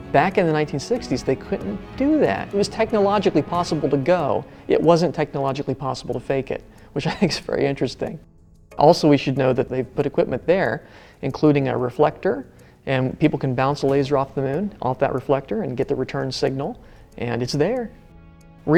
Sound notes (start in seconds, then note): 7.0 laughs